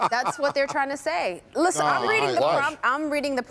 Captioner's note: laughter